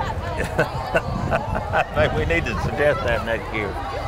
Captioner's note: person laughs